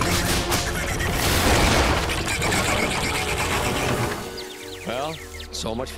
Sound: cracking

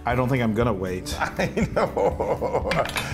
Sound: laugh

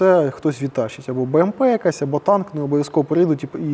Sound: Russian

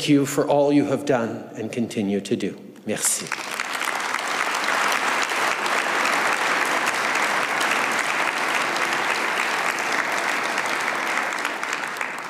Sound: applause

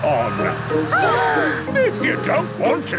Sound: children gasp

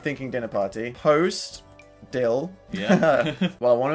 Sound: laughing

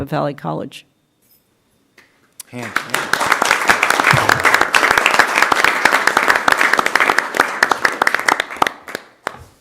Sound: applause

